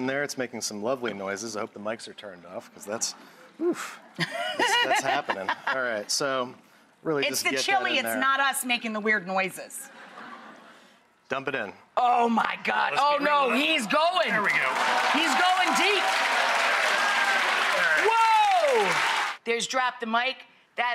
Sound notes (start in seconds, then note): 17.3 audience cheering